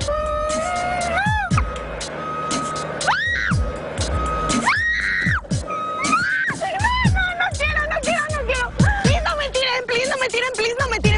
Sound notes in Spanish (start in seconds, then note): 4.1 grita